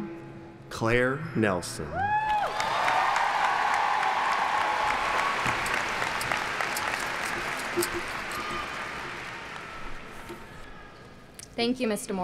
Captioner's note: applauding